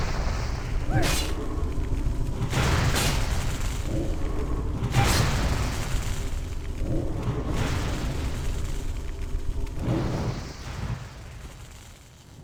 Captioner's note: sighs; grunts; grunts